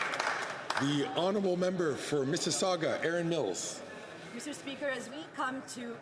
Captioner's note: some Applause